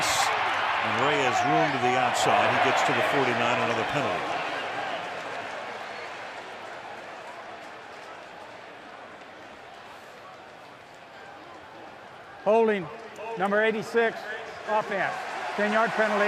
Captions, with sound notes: To Rice, and Ray is ruined to the outside. He gets to the 49. Another penalty. [chatter] Holding, number 86, offense.